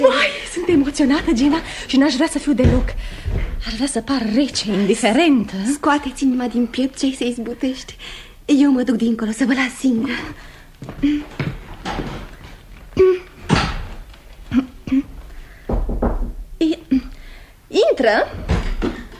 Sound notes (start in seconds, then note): 15.6 knocks on the door